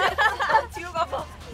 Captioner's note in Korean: 꺄하하